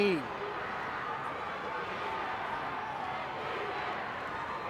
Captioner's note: spectators shouting